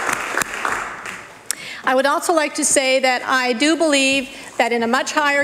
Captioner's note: applause